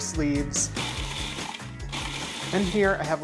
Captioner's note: food processor buzzing